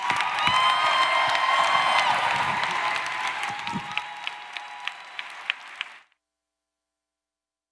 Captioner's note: applause